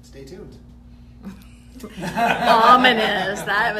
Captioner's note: laughter